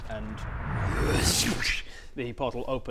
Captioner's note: wrrrrshrshchhcch